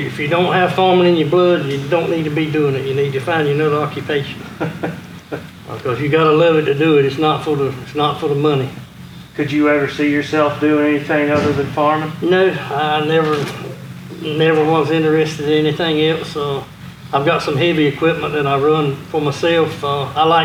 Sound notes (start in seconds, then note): 4.5 laughing